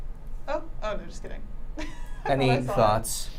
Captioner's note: laughing